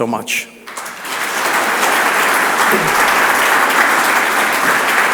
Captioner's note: audience applauds